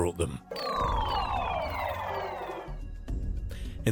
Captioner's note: energy pulsating; mysterious music